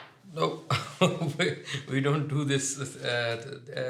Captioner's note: laughs